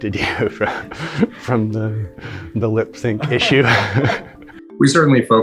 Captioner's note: interviewer laughing